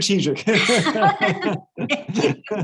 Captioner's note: laughs